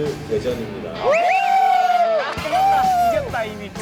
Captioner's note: cheering